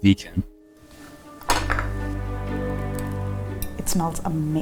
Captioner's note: gentle music; plate clattering